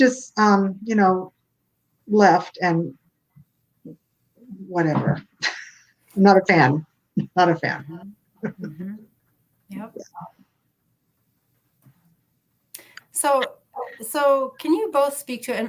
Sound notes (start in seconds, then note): 5.1 laughs